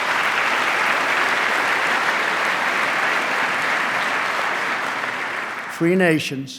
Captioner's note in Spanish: aplauso